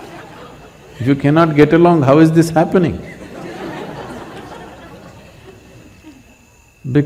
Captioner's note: laughter; laughter